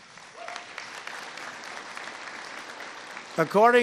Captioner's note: applause